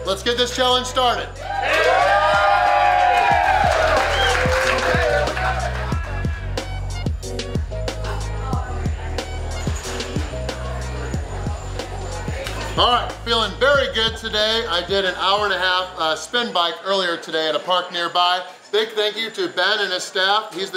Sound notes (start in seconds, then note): 1.3 audience cheering; 6.0 chill music